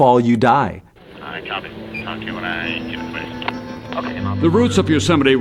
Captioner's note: climbers murmuring